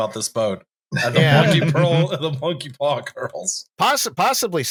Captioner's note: laughter